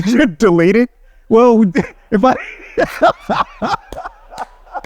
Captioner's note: laughing